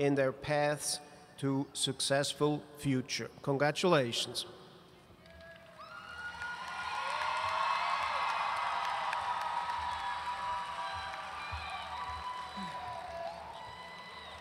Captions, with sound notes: in their paths to successful future. Congratulations. (audience cheering and applauding)